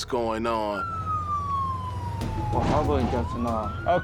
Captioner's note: siren